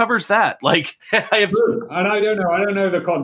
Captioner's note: laughing